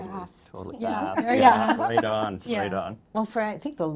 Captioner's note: laughing